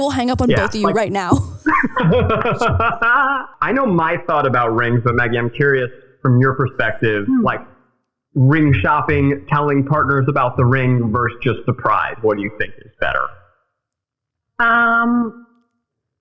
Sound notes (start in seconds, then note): 2.0 laughing